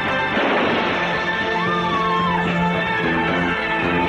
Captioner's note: women Screaming